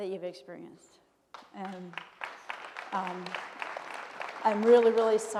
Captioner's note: audience applauds